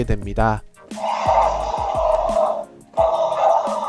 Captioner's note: roars